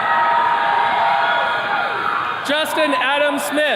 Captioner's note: attendees cheering